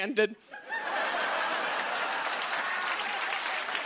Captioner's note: cheers and applause